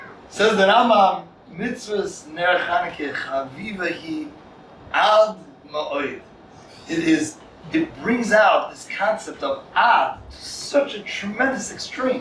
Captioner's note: Hebrew